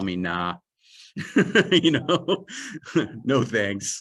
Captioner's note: laughter